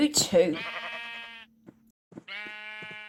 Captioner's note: sheep Baa's